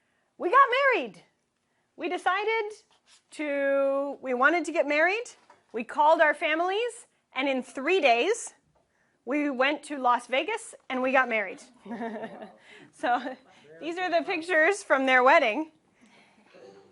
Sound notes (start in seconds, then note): 11.6 laughing